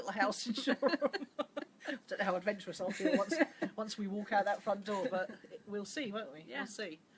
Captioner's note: laughs